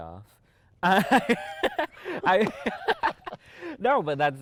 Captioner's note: laughing